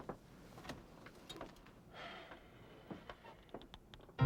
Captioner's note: sighing; mysterious music